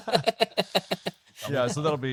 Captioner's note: laughs